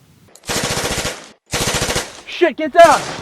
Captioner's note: gunfire